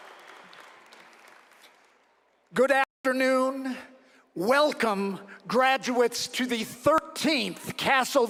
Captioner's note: cheering and applause